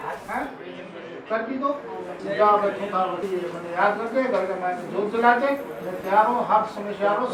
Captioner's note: foreign